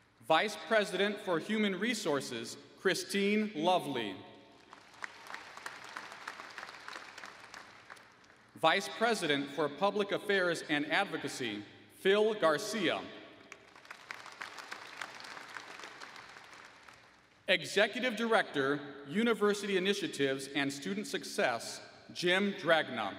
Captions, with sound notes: Vice President for Human Resources, Christine Lovely. [ Applause ] Vice President for Public Affairs and Advocacy, Phil Garcia. [ Applause ] Executive Director University Initiatives and Student Success, Jim Dragna.